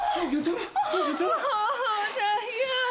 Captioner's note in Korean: 울음 소리